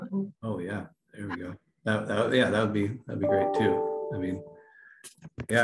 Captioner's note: computer sound